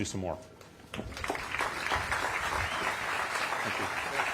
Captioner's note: applause